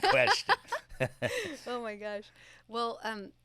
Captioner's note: laughs